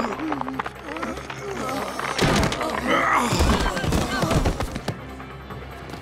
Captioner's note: groaning